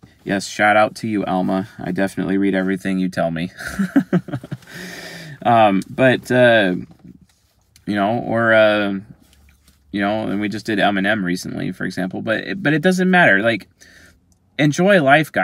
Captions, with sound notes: Yes. Shout out to you Alma. I definitely read everything you tell me. (laughing) And we just did Eminem recently for example, but it doesn't matter like enjoy life guys,